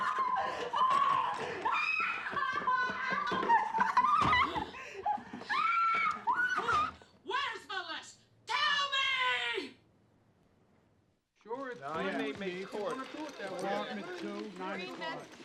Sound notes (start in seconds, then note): 11.7 detectives chattering indistinctly; 12.4 phone ringing